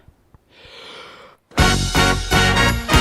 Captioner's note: deep breath